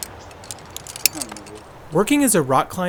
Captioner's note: gear clanging; birds chirping; faintly speaking